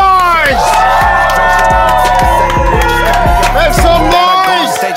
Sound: sound of cheering

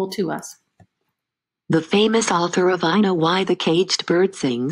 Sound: synthesized voice

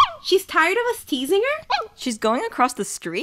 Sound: ruff; ruff

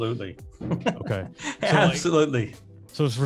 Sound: laughs

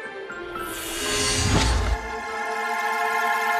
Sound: whooshes

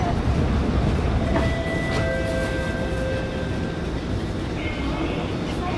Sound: station chime

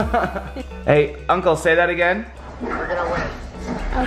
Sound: laughs

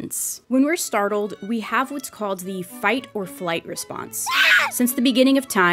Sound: screams

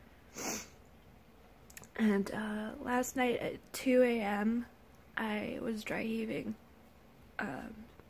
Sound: sniffles

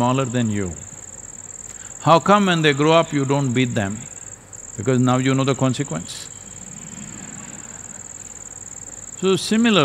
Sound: laughter

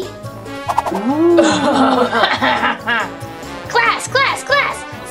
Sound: laughing

